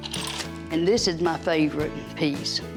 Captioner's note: hangers rattle